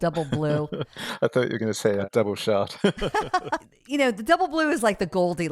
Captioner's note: laughs